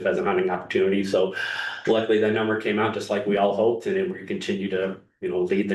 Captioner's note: sighs and gasps